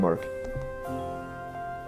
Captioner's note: screen tap